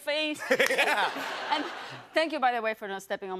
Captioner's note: laughs